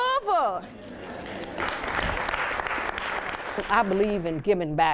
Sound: applause

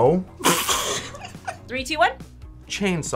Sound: laughs

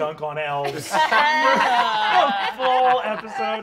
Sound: all laughing

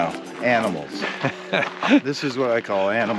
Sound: laughing

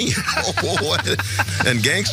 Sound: laugh

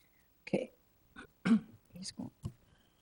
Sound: clearing throat

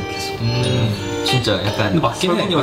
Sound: chit chat

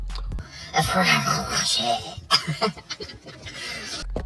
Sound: in a very bad french accent

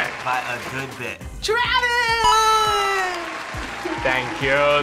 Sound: crowd cheers

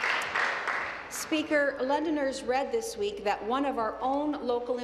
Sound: applause

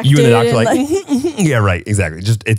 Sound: giggles

